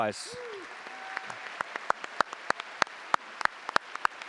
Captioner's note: audience applauding